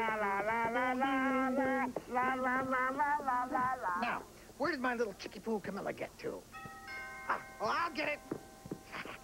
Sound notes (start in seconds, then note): 0.3 hums; 6.5 chimes